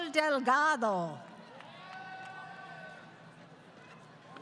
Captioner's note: crowd Cheering